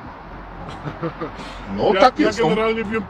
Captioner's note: nice laugh